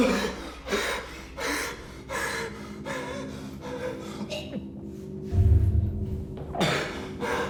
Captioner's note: heavy breathing; ominous music